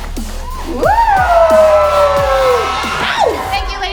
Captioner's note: cheering